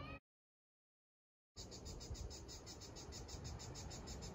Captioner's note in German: Grillen zirpen